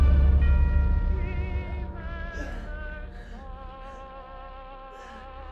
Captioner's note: dramatic orchestral music; Clint groaning softly